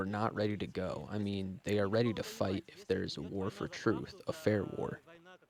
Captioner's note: speaking non-english